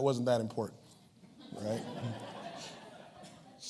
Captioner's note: laughs